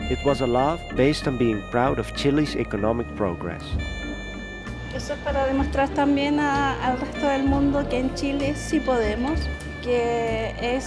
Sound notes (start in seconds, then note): 5.4 speaking in foreign language